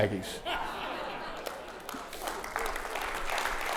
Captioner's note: audience laughing; audience clapping